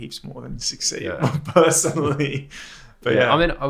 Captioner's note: laughs